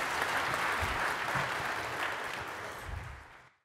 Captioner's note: applause